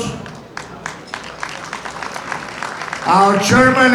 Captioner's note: audience applauding